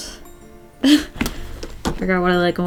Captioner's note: short laugh